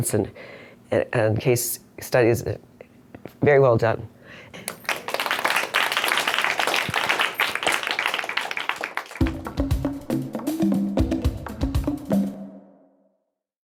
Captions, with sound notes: and case studies, very well done. (audience applauds) (upbeat music)